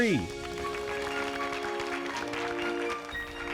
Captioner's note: applause